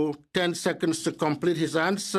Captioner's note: speaking French